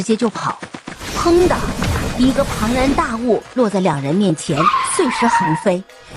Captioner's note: bang